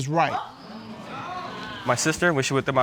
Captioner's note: audience exclaiming